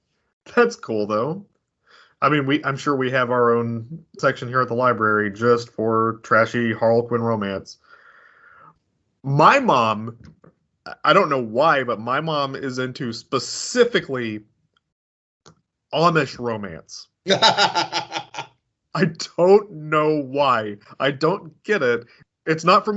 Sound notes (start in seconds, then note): 17.3 cackles